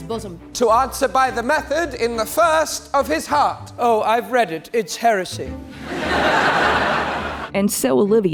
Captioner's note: laughter